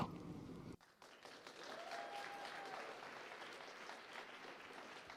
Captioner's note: applause